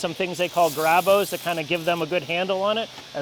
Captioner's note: marble scrapes